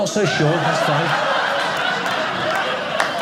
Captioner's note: audience laughing